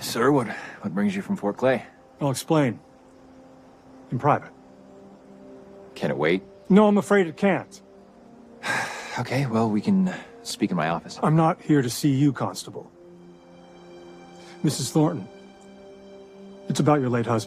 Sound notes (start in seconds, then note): 8.6 sighs